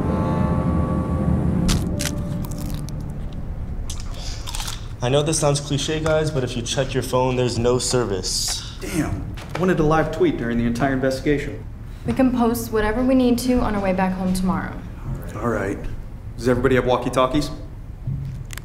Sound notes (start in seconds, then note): 1.6 chips crunching